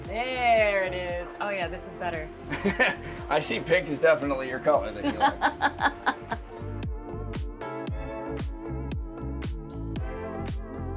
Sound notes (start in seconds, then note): 5.0 laughs; 7.7 soft upbeat music